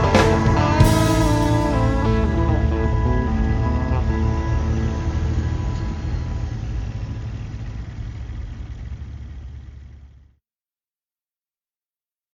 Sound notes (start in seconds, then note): 3.1 truck engine rumbling